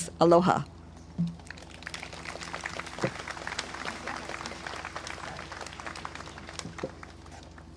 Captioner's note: clapping